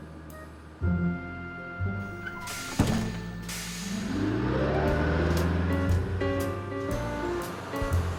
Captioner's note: bus decompressing